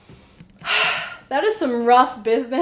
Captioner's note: another sigh